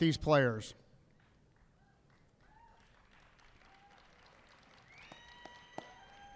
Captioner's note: applause